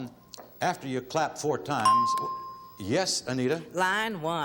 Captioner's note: ding